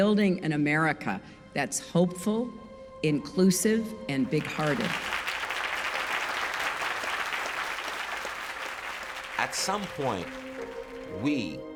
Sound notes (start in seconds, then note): 4.2 crowd cheers